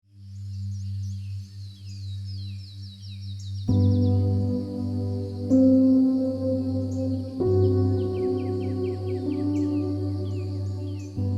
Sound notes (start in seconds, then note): 0.0 birds tweeting; 0.0 pensive music